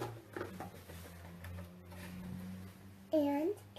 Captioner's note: rustling